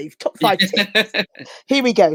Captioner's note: laughing